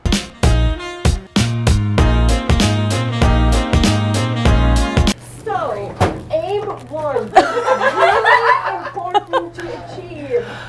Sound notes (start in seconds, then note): 0.0 upbeat, syncopated music; 7.4 lots of laughter